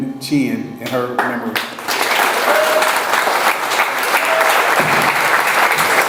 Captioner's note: audience applauds; audience cheers